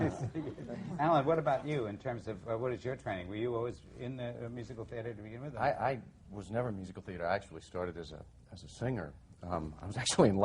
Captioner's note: laughing